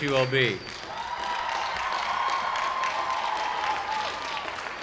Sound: applause, applause

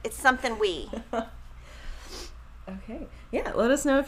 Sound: laughing

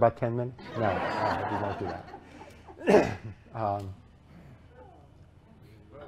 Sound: laughter

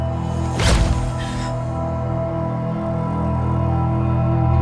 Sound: gasps

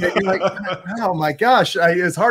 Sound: laughs

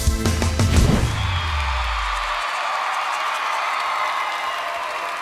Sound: audience cheers

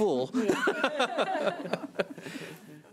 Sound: laughing

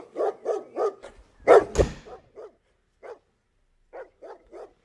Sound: dog slams into door

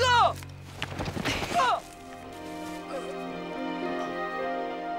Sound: thudding

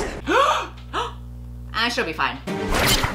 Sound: gasps

